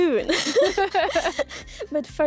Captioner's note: both laugh